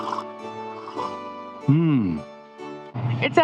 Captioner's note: slurp